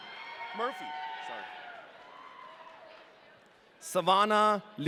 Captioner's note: audience cheering